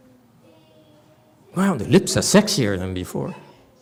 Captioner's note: laughs